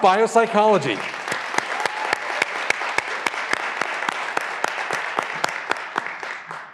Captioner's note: graduands cheering and applauding